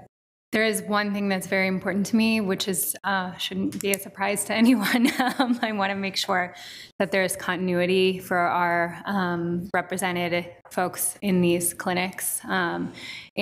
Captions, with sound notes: There is one thing that's very important to me, which shouldn't be a surprise to anyone. (laughs) I wanna make sure that there's continuity for our represented folks in these clinics